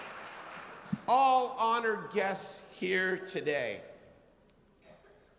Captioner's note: applause